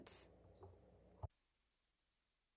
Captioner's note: speaking French